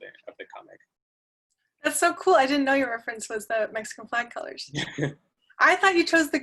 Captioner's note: laugh